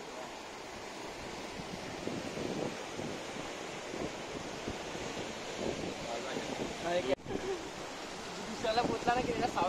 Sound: sea Waves sound

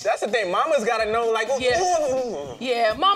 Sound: grunting

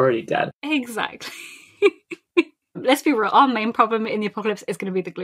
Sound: laughing

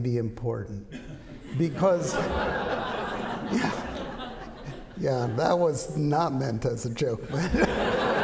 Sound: laughter

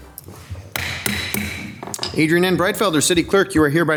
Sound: gavel banging

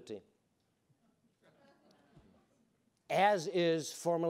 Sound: audience chuckling

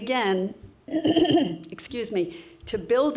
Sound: clears throat

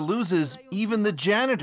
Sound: speaking alternate language

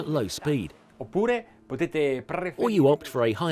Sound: speaking in Italian

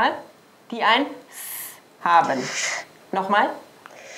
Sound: hissing sound

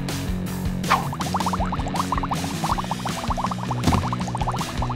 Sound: bubbles

